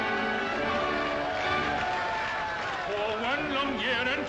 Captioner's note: jovial music; cheering & applause; singing